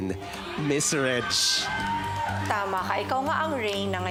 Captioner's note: crowd cheers